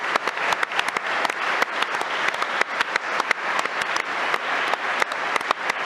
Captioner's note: applause